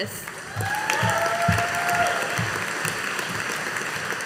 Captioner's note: audience applauding